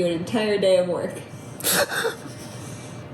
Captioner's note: laughing